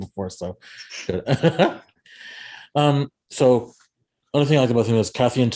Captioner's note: laughs